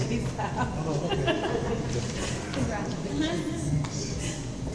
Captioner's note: laughs